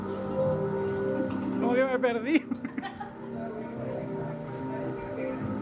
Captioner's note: laughs